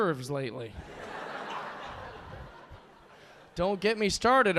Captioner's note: audience laughing